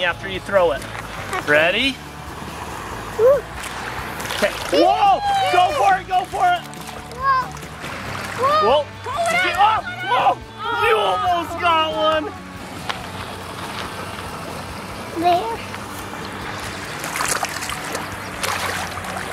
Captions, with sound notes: after you throw it. Ready? Whoa! Go for it go for it! - Whoa! - Pull it out pull it out! - You almost got one! - There. [Water Splashing]